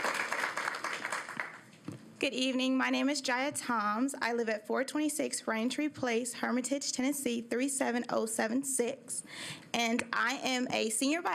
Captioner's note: applause